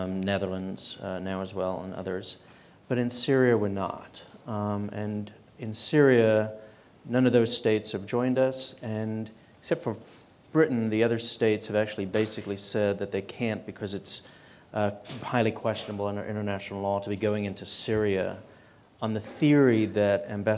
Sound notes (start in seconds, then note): none